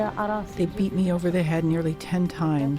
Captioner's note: through translator